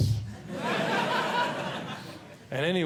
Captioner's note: audience Laughing